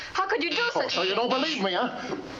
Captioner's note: doorbell buzzes